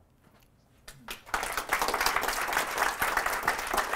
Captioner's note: applause